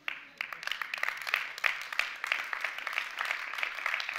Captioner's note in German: Applaus